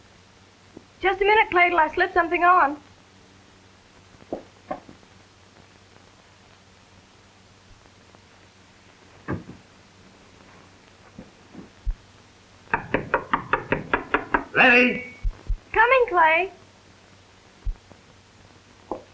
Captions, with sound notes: Just a minute, Clay, 'til I've slipped something on. (knocking) Letty? Coming, Clay.